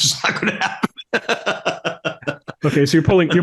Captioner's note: laugh